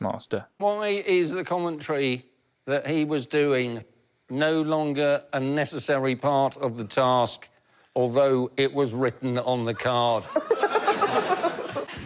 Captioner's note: laughter